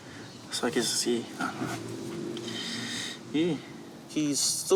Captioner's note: inhales